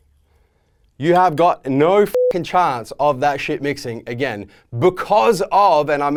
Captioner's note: beep